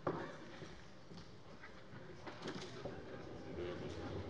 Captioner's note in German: none